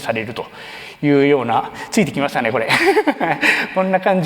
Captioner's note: laughs